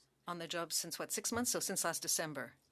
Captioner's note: speaking French